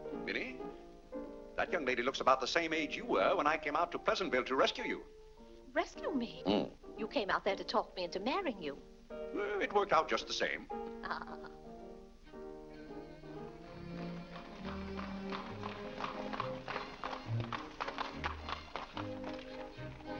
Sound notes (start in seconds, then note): 0.0 piano plays; 11.3 piano plays; 13.2 hooves trotting; 19.6 ballroom music